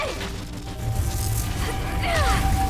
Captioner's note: Terra groans